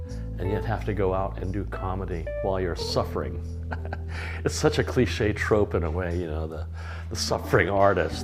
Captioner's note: laughs